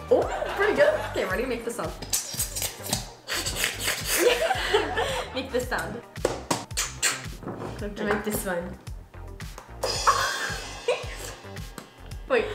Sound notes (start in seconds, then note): 0.7 canned laughter; 2.0 bottle squeaks; 4.1 slurps; 5.1 both laugh; 6.2 mimics blows landing; 6.7 spoon tapping; 9.9 laughs